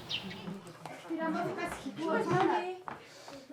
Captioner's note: background chatter